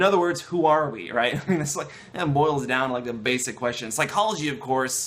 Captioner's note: laughter